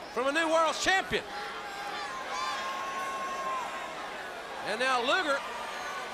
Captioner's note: crowd chatter